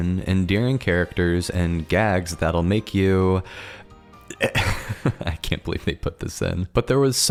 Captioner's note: laugh